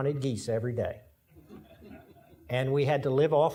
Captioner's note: audience laughing